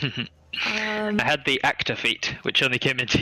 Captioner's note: laughing